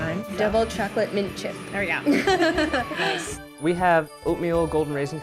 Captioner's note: chuckles